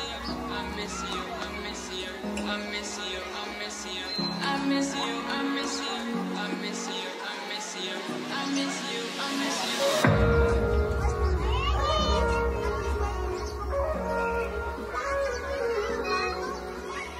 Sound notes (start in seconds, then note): 11.4 children playing; 11.4 light pop music